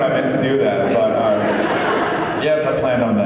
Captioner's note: laughs